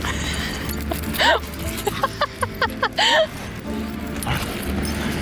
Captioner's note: laughing